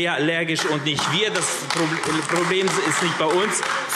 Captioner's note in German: Beifall AfD